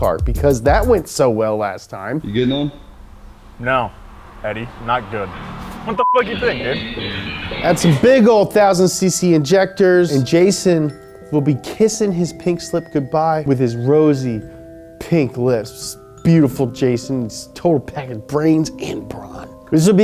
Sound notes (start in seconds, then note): 5.8 beeps